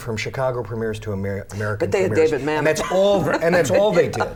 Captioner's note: laughs